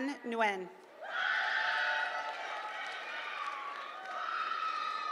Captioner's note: applause; applause